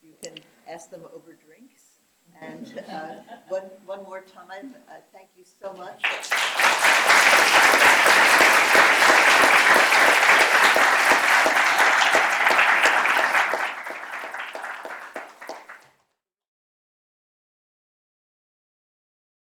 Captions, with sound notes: you can ask them over drinks and one more time, thank you so much. [APPLAUSE]